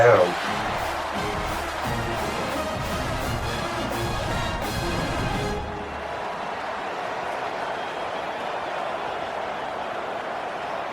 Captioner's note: crowd Noises